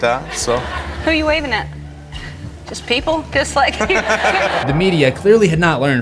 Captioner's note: crowd laughs